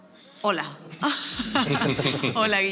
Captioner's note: she laughs